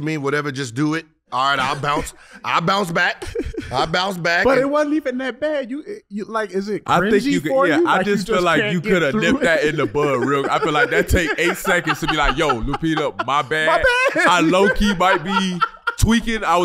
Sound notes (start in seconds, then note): 13.7 laughs